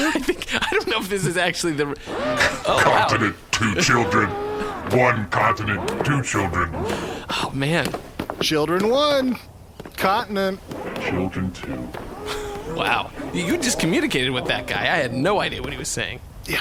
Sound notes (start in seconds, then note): 0.0 laughing; 8.7 triumphantly